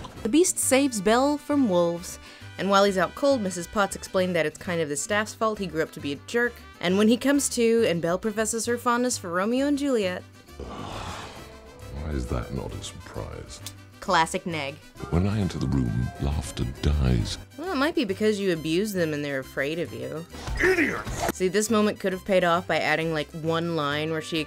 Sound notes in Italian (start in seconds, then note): 0.6 voce fuori campo; 10.6 sbuffo; 17.7 voce fuori campo; 21.5 voce fuori campo